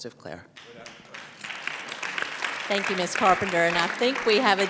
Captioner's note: applause